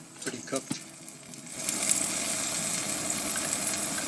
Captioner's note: food sizzling